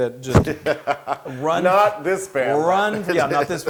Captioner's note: laugh